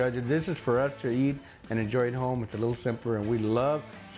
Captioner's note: none